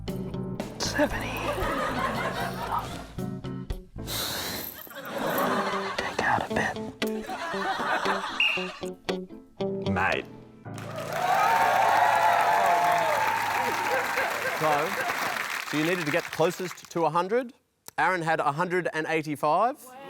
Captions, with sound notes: 70. Take out a bit. (BLOWS WHISTLE) Mate. (CHEERING AND APPLAUSE) So... So you needed to get closest to 100. Aaron had 185.